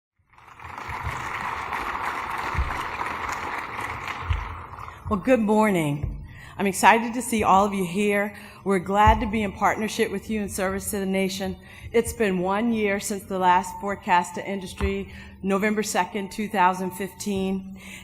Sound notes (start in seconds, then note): 0.2 applause